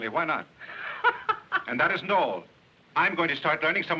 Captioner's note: laughing